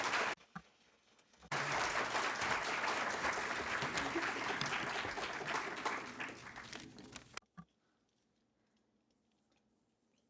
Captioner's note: applause